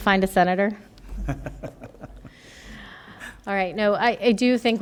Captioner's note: laughter